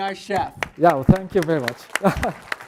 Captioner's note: applause